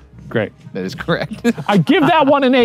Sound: laughing

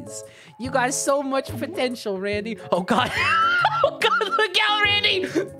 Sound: laughing

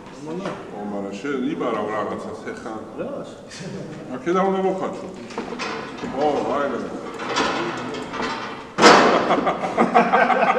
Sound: laughs

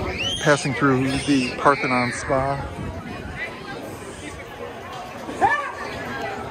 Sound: crowd yelling

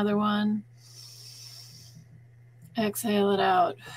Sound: inhaling

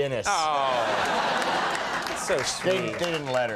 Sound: audience laughing

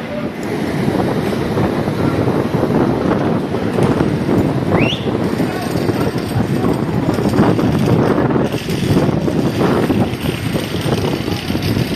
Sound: noise of wind

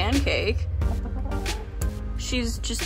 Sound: chicken noises

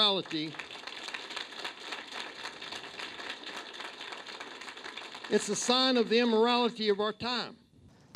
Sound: applause

